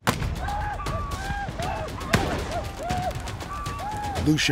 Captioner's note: gunfire